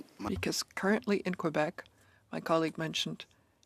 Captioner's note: speaking in French